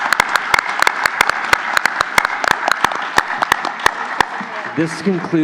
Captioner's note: applause